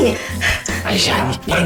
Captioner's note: ugh!